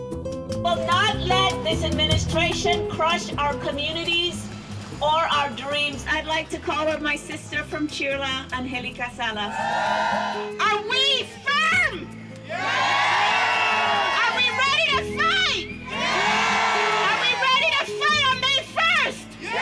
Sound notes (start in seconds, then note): 9.4 cheers; 12.4 crowd; 18.6 crowd